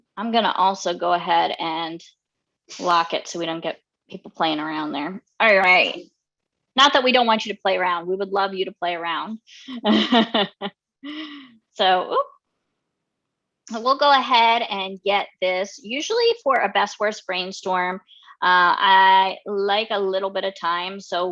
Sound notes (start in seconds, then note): 9.8 laughing